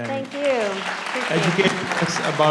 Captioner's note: audience applauds